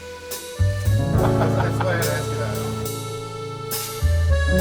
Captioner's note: laughs